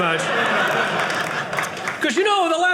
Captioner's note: audience laughing